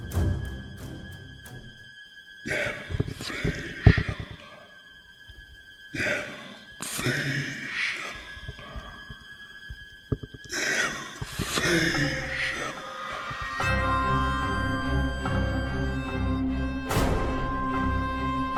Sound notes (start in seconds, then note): 2.9 whispering; 14.4 dramatic music